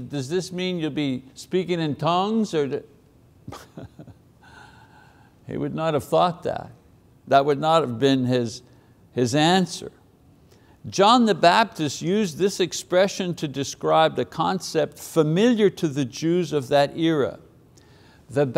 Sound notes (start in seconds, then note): 3.5 chuckles